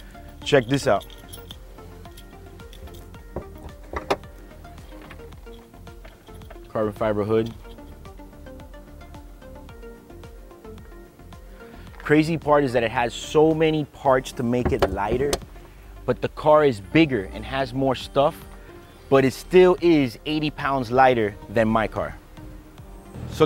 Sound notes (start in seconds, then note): 3.3 noise popping hood